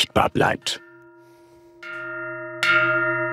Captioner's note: deep jingles